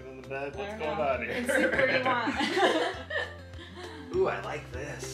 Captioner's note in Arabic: يضحك